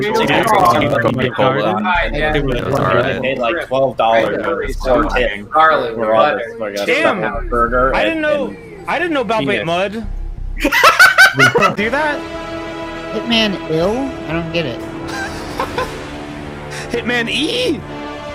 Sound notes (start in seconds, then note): 10.6 howling laughter; 15.0 laughing